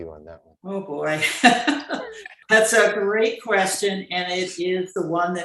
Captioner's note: chuckles